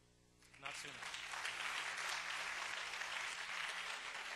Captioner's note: audience applause